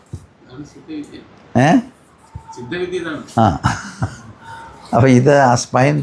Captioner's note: laughter